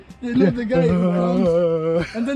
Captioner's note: groaning